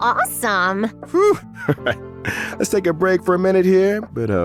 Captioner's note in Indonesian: Huff